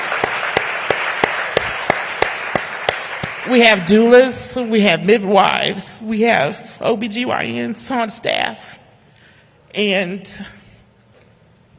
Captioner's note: applause